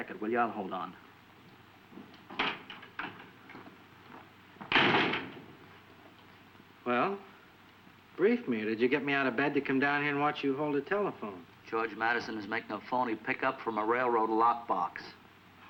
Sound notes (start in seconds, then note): 2.5 door latching; 2.5 door unlatching